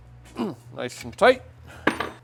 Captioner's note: grunting